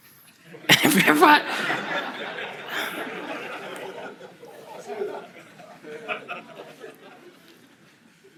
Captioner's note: Kelsey and the audience laugh